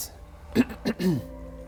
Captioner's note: ahem